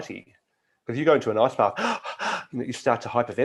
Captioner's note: breathes rapidly